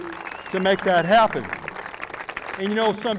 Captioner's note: applause